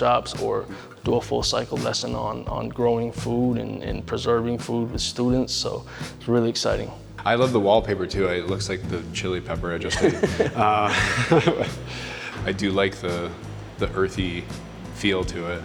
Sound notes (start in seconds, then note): 9.8 both laughing